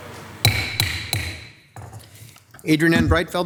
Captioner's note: gavel hammering